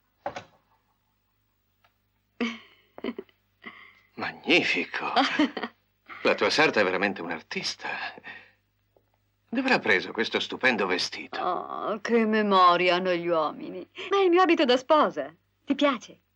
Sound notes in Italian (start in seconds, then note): 5.0 risate